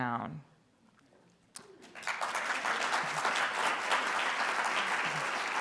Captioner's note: audience applauding